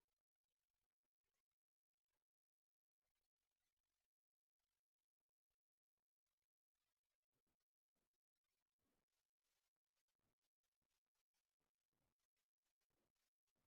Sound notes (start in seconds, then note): none